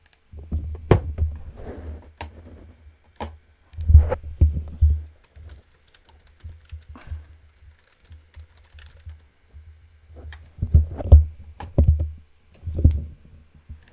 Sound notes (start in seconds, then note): 0.1 mouse clicking; 3.6 keyboard typing